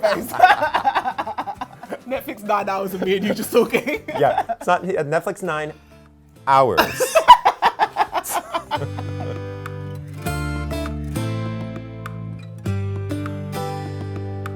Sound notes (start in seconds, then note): 0.0 both laughing; 6.8 both laughing